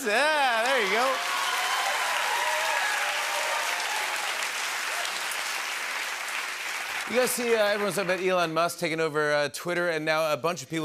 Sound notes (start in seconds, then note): 1.8 cheers and applause